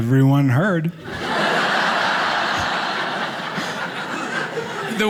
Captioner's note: audience laughing